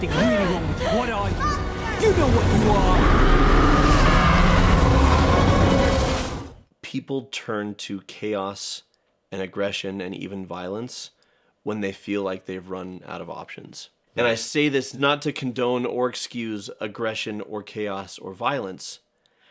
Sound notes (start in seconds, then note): 2.3 shriek of thousands of years of pain